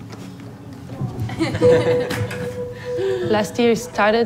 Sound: laughter

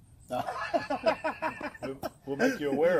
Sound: laughter

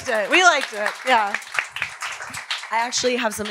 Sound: audience applause

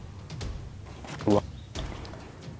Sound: gulps

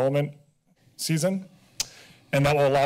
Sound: clicks tongue

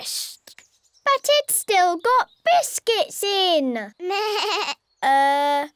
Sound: bleats

